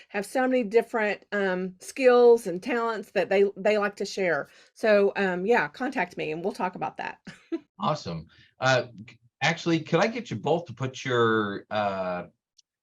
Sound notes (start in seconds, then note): 7.8 chuckles